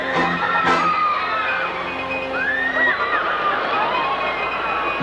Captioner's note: guests screaming gleefully